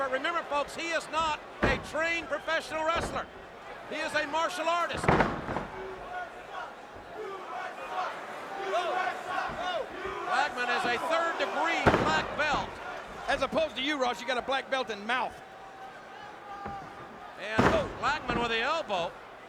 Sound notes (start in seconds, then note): 7.2 crowd chanting